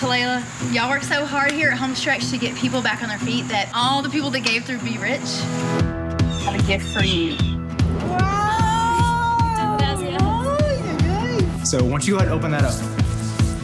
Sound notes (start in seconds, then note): 9.4 speaking in foreign language